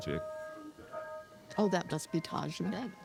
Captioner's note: doorbell ringing